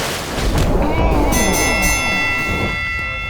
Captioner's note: bell dinging